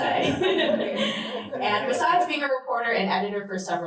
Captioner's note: laughter